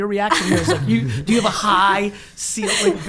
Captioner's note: laughing